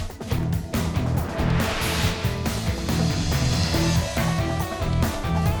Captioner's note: screen whooshing